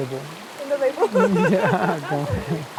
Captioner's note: laughs